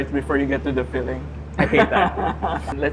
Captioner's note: laughs